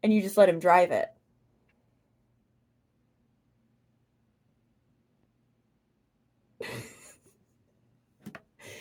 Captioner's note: giggles